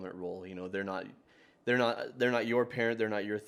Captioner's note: stammers